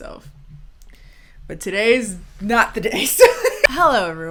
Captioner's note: laughing